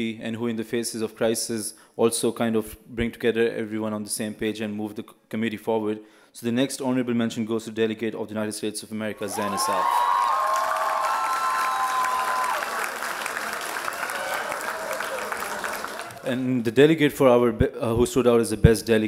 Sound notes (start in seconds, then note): 9.2 loud applause and cheering